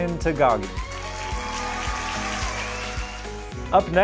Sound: audience cheering

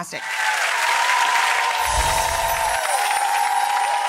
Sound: cheering and clapping

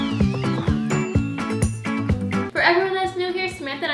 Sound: upbeat instrumental music; bell dinging

